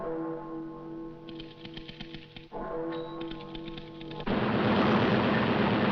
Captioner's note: typewriter clacking